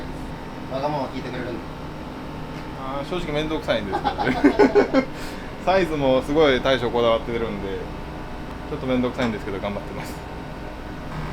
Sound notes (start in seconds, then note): 3.8 laugh